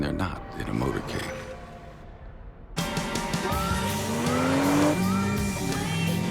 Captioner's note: engine revving; upbeat music starts